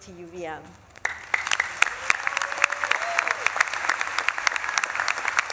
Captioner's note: audience claps and cheers